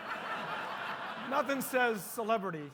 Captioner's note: audience laughing